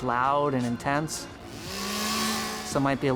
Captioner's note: chainsaw buzzing